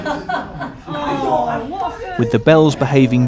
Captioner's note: laughter